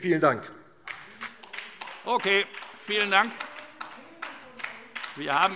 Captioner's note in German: Beifall DIE LINKE - Zurufe Freie Demokraten